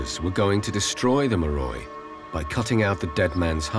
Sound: speaking in foreign language

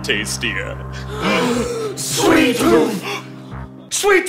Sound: gasp

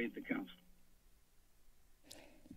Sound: silence; inhales

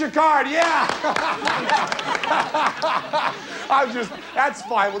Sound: laughter

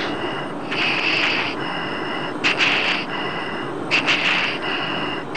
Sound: heavy breathing continues

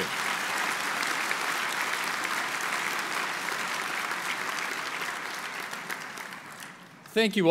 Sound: applause

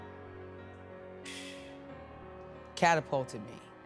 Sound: woman exhales

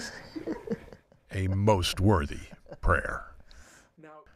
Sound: laughs

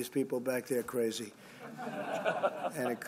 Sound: laughter

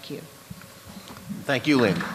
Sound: applause

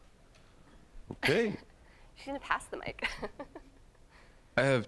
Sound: chuckling

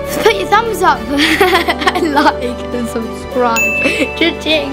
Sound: giggling

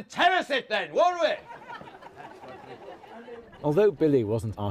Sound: audience laughter

